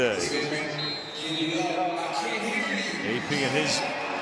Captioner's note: pa announcement